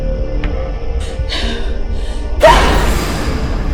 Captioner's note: jump scare; scary music, crickets